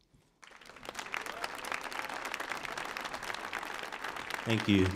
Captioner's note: audience applauding